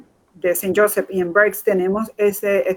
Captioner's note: speaking in Foreign Language